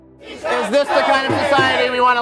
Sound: people shouting

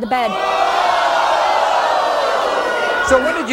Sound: audience groaning

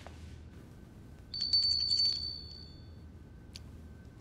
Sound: bell tingles

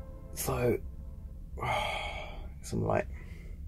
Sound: sighs

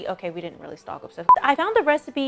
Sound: beep

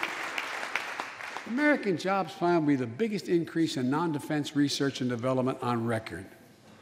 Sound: applause

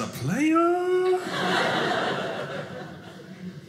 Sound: audience laughing

